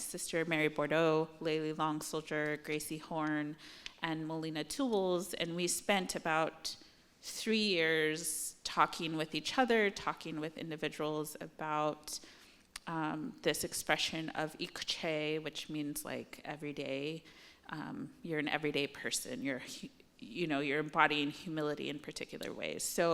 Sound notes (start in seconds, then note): 14.6 non-english